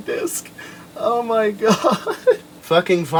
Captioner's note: giggles in confusion